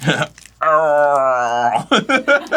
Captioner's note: arin mimics the sound of his angry stomach